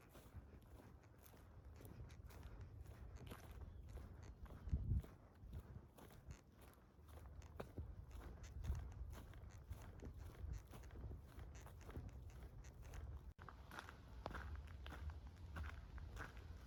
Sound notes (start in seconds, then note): 1.1 footsteps